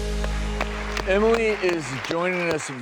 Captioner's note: uplifting music; audience clapping